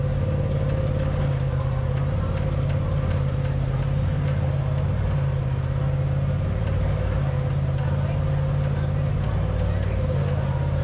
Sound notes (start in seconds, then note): 0.1 engine revving; 6.7 crowd chattering